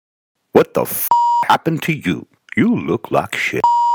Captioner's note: beeping; beeping